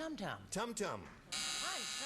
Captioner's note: buzzer